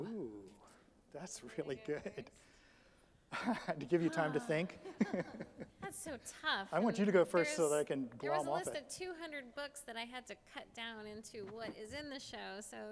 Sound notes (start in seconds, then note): 4.1 laughs; 5.2 sighs